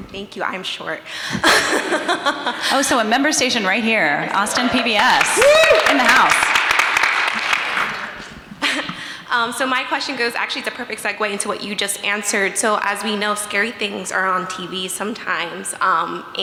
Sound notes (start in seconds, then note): 1.4 everyone laughing; 6.6 everyone applauding